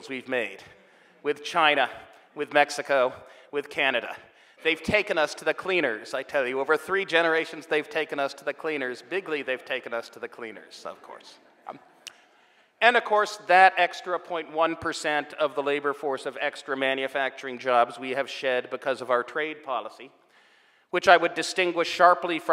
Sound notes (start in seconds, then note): 12.5 audience laughing